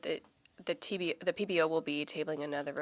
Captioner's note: speaking French